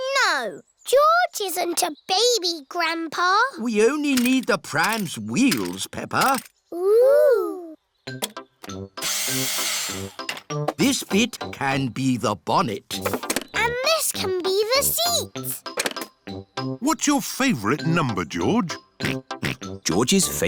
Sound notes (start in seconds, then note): 9.1 whirring; 19.8 snorts